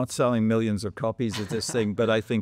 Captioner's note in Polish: śmiech